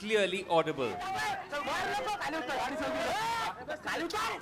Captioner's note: speaking hindi